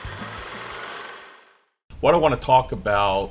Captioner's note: film reel spinning